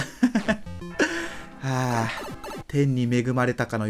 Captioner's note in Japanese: 溜息